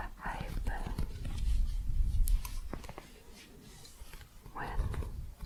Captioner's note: shuffling